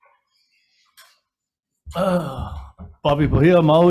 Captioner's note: sighs